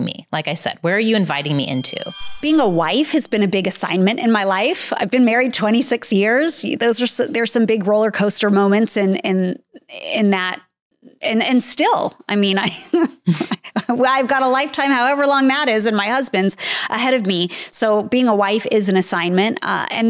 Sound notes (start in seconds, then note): 1.5 screen resonating; 12.7 chuckling; 12.8 chuckles